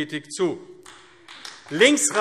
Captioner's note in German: Beifall AfD